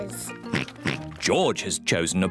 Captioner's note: oinks